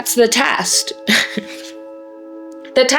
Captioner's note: laughs